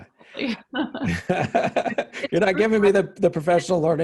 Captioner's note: laughing